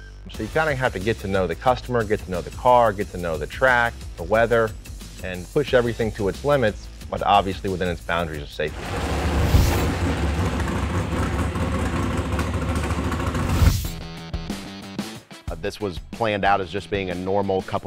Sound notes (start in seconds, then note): 8.7 car engine revving; 13.5 rock music